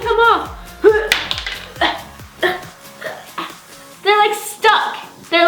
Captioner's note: exaggerated grunts